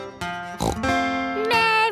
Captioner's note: playing guitar; snorts